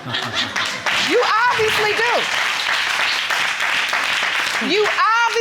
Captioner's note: audience applauding